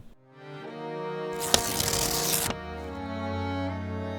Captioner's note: page tearing